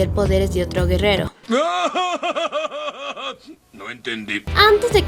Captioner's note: laugh